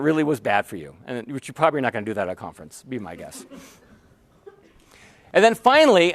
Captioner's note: laughter